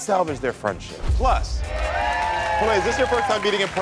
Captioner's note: audience cheering